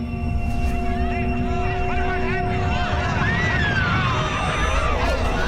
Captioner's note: people clamoring